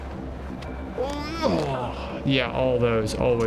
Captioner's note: groans